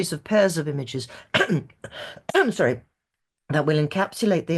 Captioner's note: clears throat